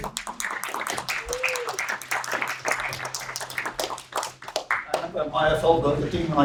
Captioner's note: applause